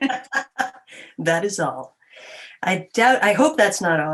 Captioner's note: chuckles